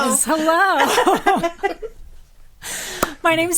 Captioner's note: group laughing